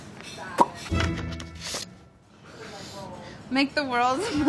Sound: smacks lips

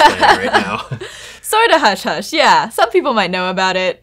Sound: laughs

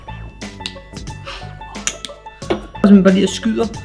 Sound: takes a sniff

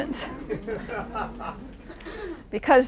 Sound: laughing

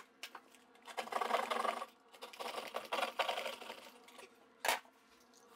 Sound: rapid saw cutting

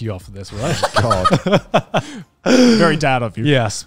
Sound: everyone laughs

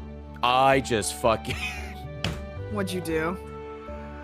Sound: laughs

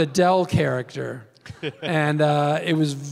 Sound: Tim laughs

